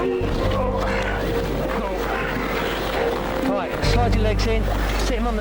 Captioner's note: groaning